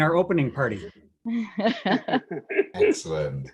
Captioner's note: laughter